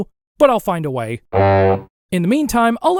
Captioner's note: low honk